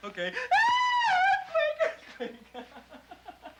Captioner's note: Casey screams; Casey laughs